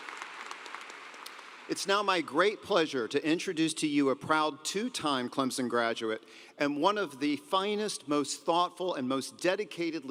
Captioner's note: applause